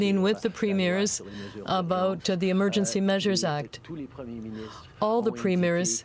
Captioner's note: speaking French